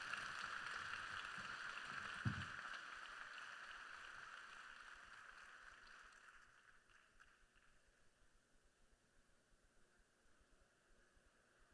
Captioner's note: applause